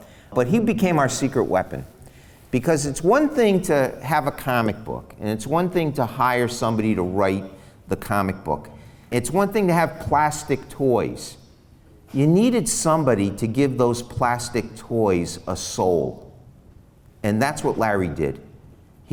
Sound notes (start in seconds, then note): none